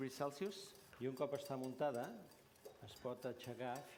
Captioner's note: non-english speech